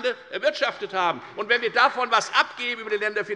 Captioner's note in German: Beifall bei der FDP und bei Abgeordneten der SPD